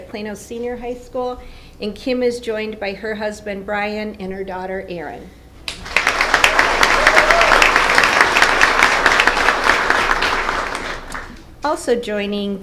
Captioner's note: applause